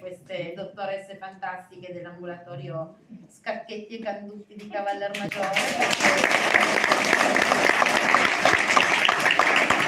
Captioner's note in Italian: Applauso